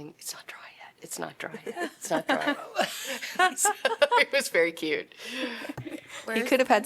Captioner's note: laughter